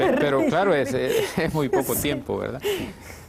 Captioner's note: ríen